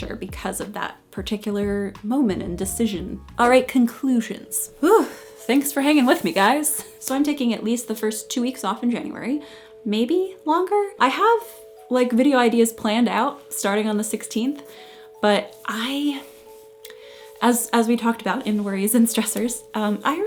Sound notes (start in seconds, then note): 4.8 sighs